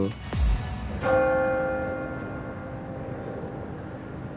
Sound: bell clangs

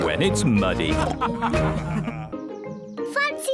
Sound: all laughing

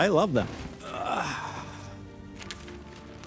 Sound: groans

